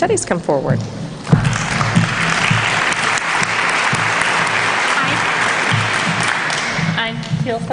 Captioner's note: applause